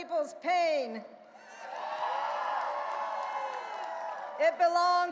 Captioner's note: audience cheering and applauding